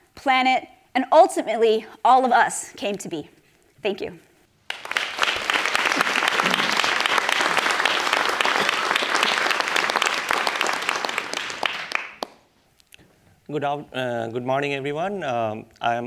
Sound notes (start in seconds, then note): 4.6 applause